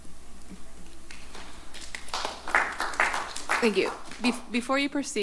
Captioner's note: applause